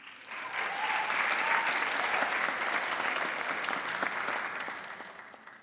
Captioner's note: audience applauds